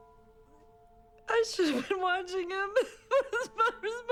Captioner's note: crying